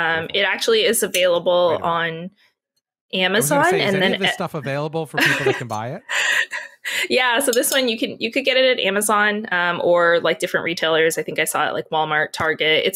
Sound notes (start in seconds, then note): 6.9 laughs